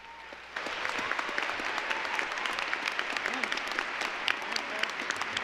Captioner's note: applause